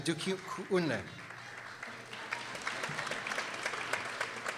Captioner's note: people applauding